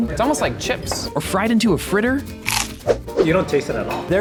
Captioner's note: bug crunching